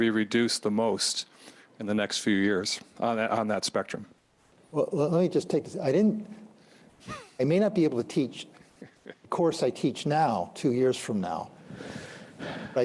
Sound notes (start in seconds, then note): 7.0 chuckles